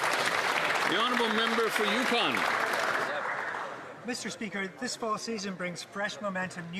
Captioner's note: some Applause